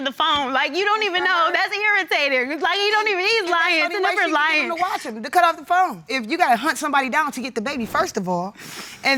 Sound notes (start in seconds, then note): 3.2 stammers